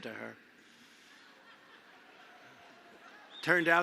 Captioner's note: laughter